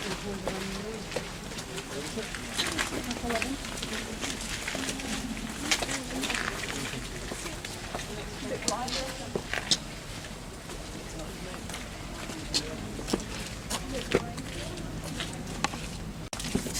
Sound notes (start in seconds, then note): 5.7 footsteps; 8.0 people Talking